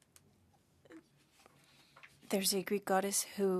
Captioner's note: speaking French